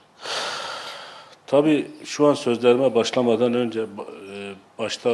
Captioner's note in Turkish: iç çeker